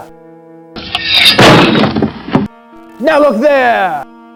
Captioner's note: blade slices